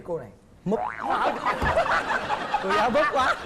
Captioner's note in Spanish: risa